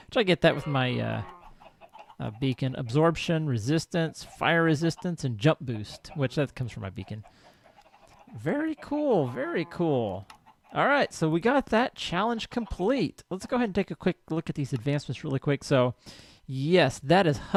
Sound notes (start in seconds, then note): 0.4 donkey brays; 9.2 cow lows; 10.3 clucking continues